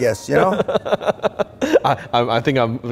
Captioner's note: laughing